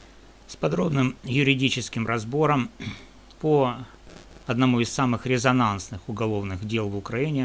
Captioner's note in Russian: откашливается